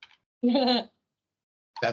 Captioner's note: chuckling